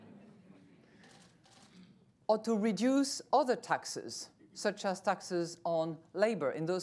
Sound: laughter

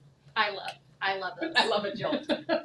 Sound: chuckles

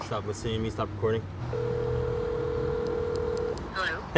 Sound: phone ringing

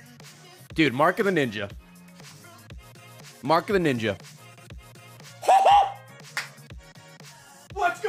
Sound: squeals

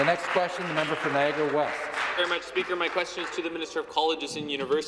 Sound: applause

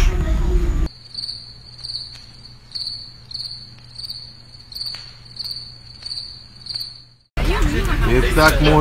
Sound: crickets

